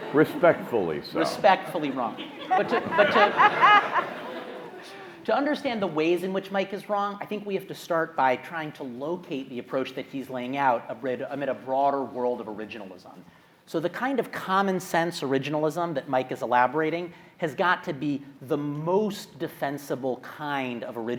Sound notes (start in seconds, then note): 3.0 audience laughing